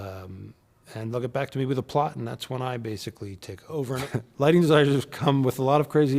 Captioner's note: laugh